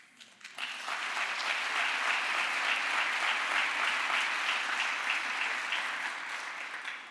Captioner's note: crowd applause